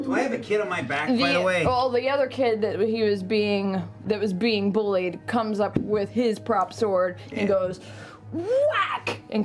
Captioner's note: whack